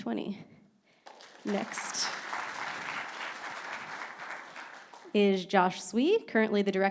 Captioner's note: audience clapping